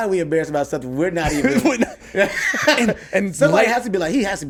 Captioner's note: laughs